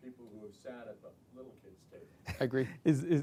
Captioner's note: laughs